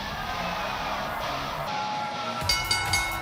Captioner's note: cheers & applause; bell